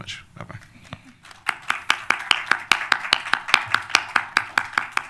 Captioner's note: applause